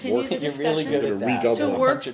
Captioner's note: laughter